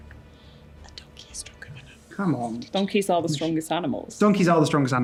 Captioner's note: whispers